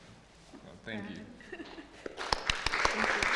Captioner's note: applause